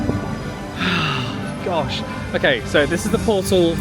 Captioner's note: sighs